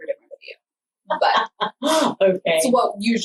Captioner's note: laughs